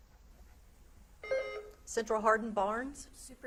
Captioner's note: beep buzzing